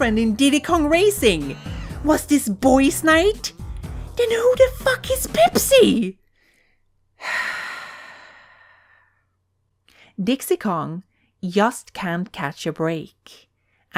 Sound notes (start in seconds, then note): 7.2 long exhale